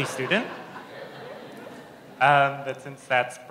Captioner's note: laughter